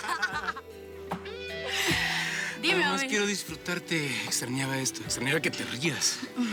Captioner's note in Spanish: risas